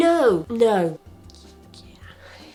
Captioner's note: nods and whispers yes